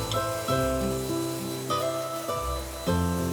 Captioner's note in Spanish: sonido del agua